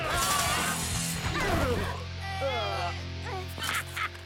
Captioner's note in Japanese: 忍者たちのうめき声